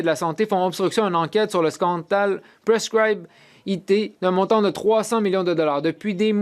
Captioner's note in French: voix de l'interprète